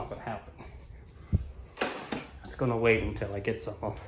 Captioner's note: footsteps